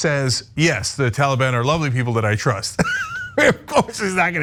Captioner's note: laugh